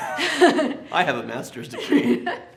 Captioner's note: both laugh